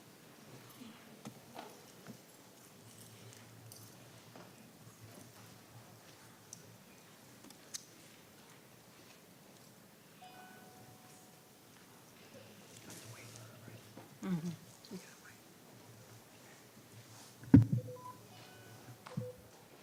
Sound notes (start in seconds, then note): 14.2 murmuring